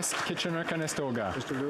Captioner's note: some Applause